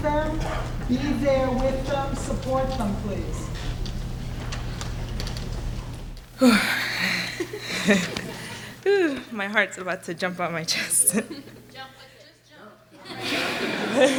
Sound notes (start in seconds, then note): 6.0 blows nervously